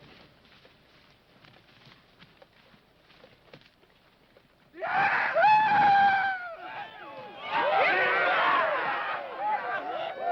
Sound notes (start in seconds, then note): 6.8 men cheering